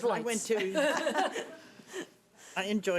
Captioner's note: laughing